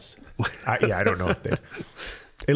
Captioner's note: laughing